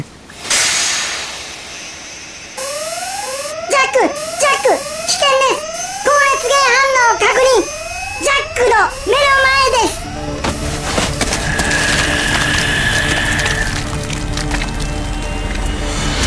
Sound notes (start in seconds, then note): 0.0 mechanical noise; 0.2 steam hisses; 3.6 alarm sounds; 11.1 dripping noises; 11.4 Dominic exhales